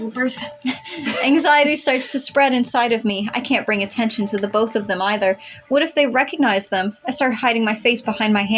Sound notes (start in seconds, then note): 0.3 both Chuckle